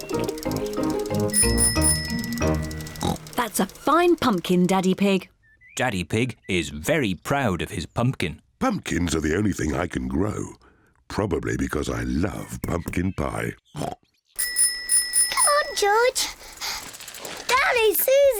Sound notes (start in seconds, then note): 0.0 bicycle bell ringing; 2.1 snorts; 12.7 snorts; 14.4 bicycle bell rings